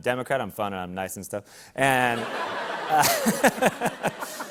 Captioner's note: laughter